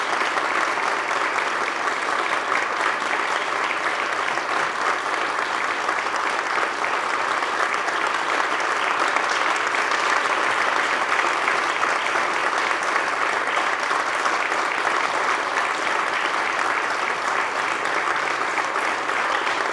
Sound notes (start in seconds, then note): 11.8 applause